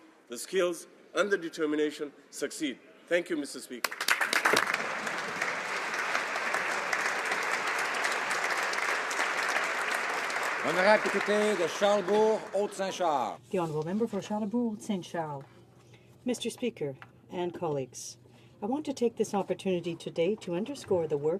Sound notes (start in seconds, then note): 6.8 applause; 14.5 speaking French